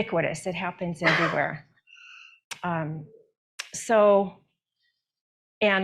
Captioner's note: attendee coughs